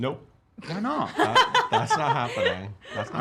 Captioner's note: laughing